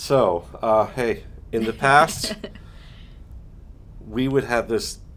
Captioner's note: chuckling